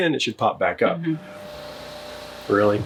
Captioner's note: pressure washer whirring